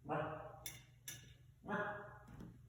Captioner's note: barks like a Pup